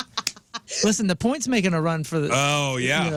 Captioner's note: laughing